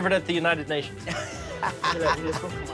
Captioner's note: laughs